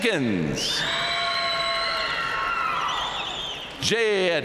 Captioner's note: audience cheering and applauding